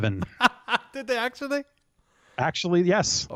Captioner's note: laughs